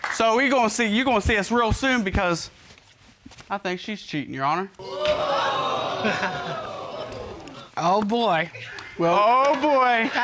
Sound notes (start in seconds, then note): 4.9 audience gasping; 4.9 chuckles